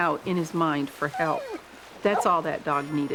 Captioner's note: dog whining; dog barking